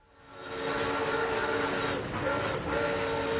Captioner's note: train hoots